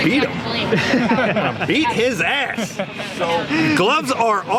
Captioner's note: laughs